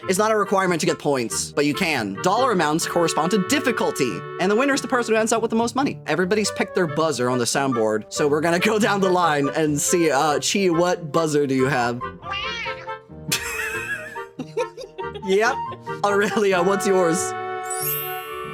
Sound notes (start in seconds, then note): 13.2 breathy Laugh; 13.3 giggling